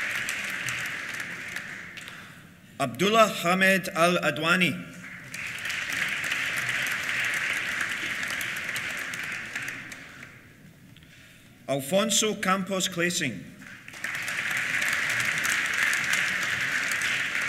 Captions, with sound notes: Abdullah Hamed Al Adwani. (APPLAUSE) Alfonso Campos Clasing. (APPLAUSE)